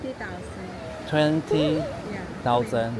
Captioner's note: confused